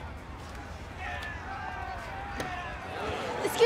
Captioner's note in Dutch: ontevreden menigte schreeuwt